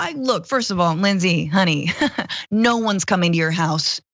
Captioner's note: laugh